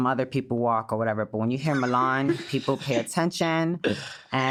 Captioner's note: laughs